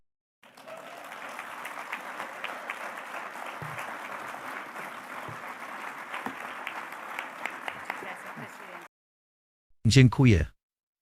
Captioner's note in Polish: Aplauz